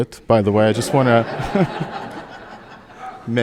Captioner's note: audience laughing